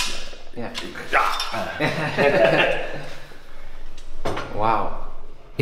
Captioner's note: laughter